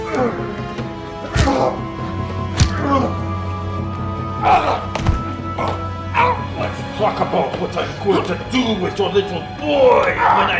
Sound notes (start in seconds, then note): 0.1 fists pounding; 0.1 suspenseful music continues; 4.4 Colt groan; 4.8 body thuds; 6.5 suspenseful music